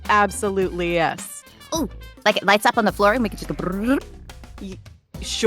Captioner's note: trills